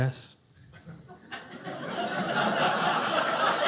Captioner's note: audience laughing